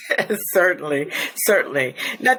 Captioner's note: chuckles